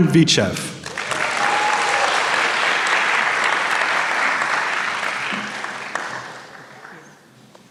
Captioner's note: applause